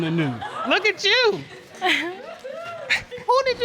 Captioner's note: chuckles